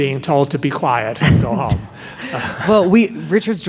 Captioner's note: laughing